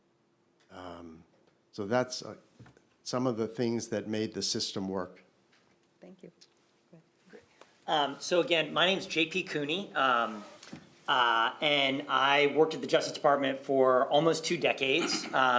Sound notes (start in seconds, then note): 6.5 shuffling